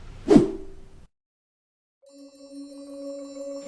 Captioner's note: whooshing screen